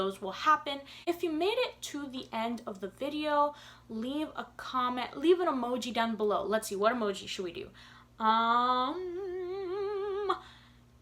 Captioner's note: humming